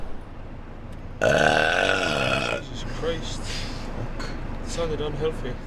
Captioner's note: small burp